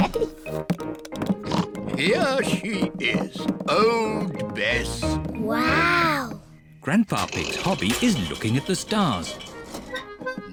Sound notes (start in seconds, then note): 1.4 oinks